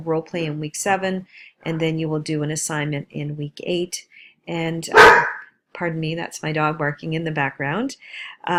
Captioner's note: dog barking